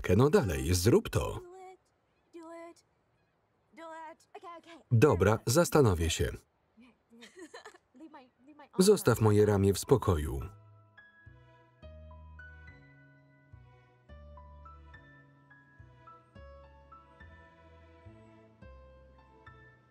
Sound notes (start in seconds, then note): 6.8 Lana laughs; 9.6 soft music